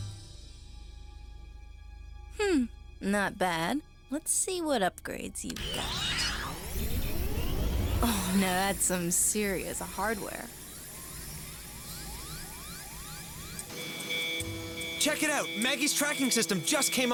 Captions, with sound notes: HM. NOT BAD. LET'S SEE WHAT UPGRADES YOU'VE GOT. (POWER WHIRS) OH, NOW THAT'S SOME SERIOUS HARDWARE. (TRACKING SYSTEM BEEPS) (BEEPING) CHECK IT OUT!